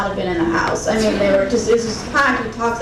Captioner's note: crowd giggling